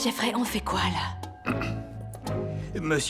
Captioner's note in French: Jeffrey se racle la gorge